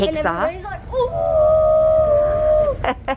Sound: screaming; laughing

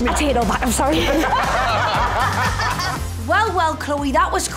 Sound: laughter

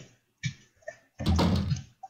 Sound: thud

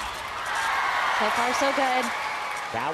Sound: audience cheering

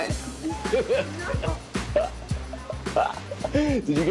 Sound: laughs

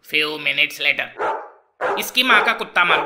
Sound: barking sound

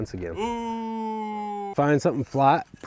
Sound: audible booing

